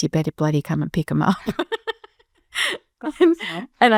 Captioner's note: both laughing